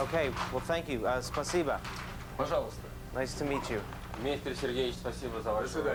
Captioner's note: men speaking in Russian